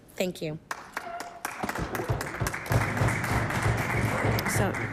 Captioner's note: applause